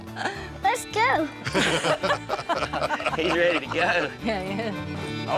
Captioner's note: laughter